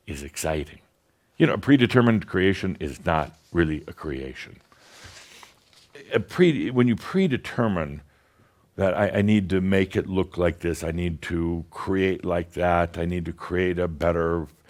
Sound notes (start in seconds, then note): none